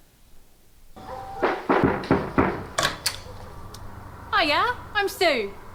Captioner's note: door knocking